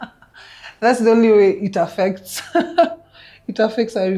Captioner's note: laughing; still laughing